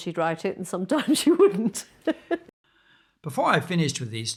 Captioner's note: laughs